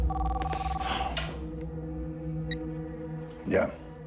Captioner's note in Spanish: Suena el teléfono